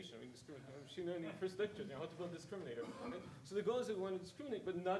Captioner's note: speaking faintly